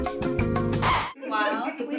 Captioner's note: upbeat music; record scratch